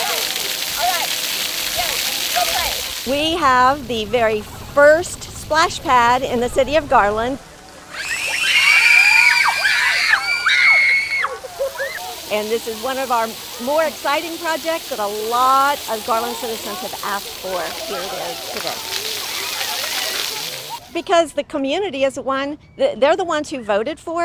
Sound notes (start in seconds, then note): 7.9 screams